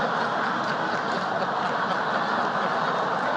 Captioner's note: laugher